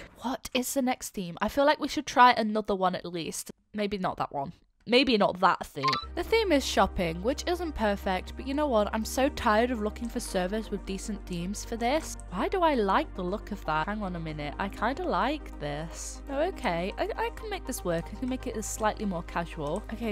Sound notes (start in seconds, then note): none